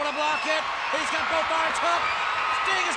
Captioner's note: audience cheers